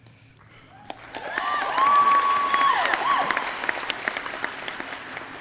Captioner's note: audience cheering